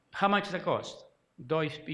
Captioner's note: speaking foreign language